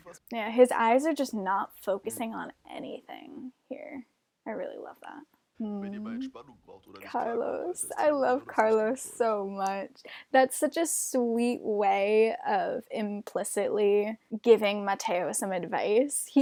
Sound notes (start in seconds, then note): 5.6 appreciation noises